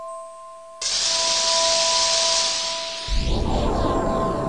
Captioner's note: blowtorch; rolling forgesound